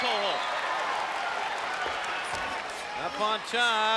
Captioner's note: crowd cheering